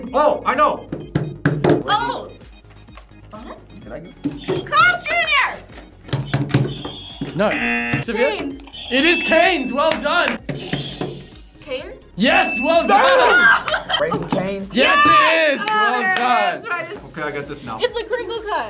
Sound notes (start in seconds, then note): 5.5 hand banging against table; 7.6 buzzer blares; 8.2 bell dings; 13.1 exclaims and laughs